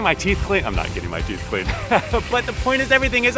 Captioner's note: laughter